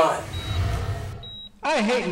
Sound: beeping

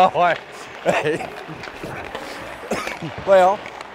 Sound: coughing; laughs

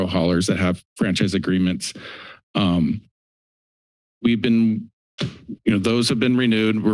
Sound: thuds

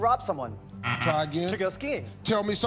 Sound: buzzer

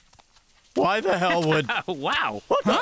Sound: man laughs

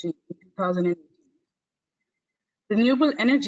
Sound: audio static

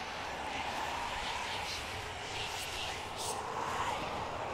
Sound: faint whispering

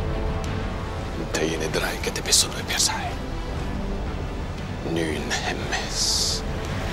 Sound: Themistocles speaking in foreign language

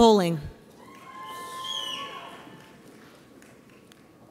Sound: audience cheers

